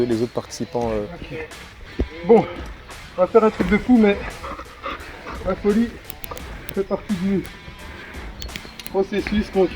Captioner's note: laughs